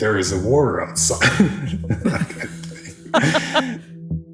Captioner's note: laughter